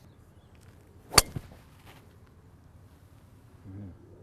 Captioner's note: hits ball